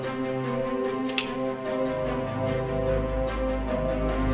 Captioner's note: gun clicks